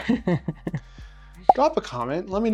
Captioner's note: laughs